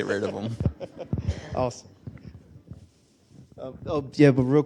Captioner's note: laughs